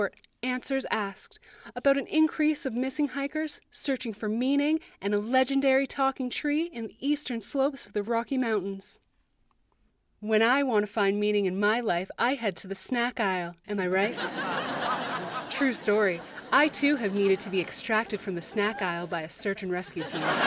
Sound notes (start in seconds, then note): 14.0 light audience laughter